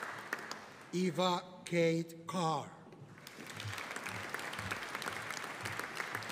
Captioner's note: audience applauding